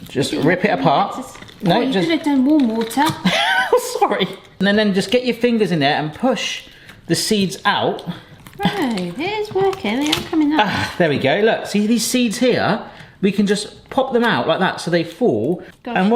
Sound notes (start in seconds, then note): 3.2 laughing